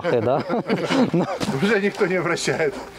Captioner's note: loughing